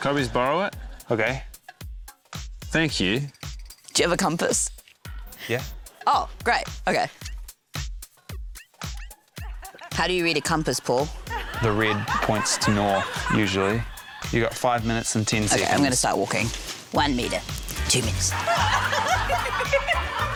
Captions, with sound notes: - Could I please borrow it? - OK. - Thank you. - Do you have a compass? - Yeah. - Oh, great. OK. How do you read a compass, Paul? (LAUGHTER) - The red points to north usually. You've get five minutes and 10 seconds. - OK. I'm going to start walking. 1m, 2m,... (LAUGHTER)